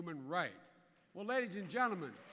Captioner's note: applause